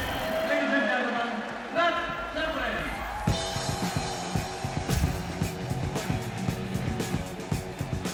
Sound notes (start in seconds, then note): 3.2 applause